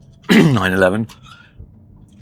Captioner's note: cough